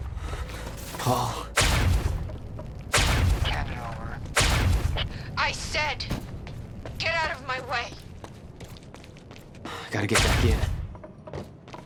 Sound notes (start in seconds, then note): 0.0 breathing heavily